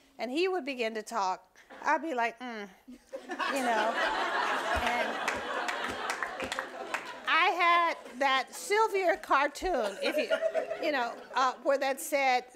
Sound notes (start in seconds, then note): 3.1 audience laughing